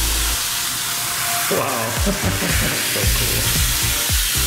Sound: laughter

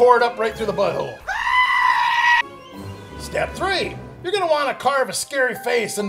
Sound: scream

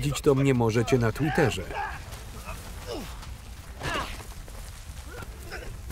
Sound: groaning; grunting

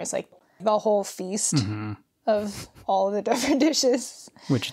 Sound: laughs

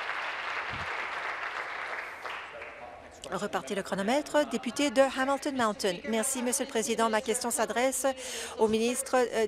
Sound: applause

